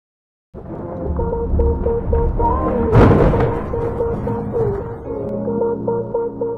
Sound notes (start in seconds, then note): 0.6 thunder rumbling; 0.6 upbeat music